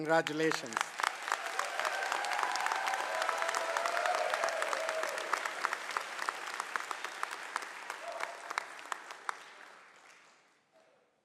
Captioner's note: applause